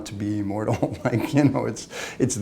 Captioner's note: laughter